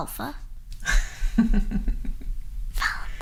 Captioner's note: chuckling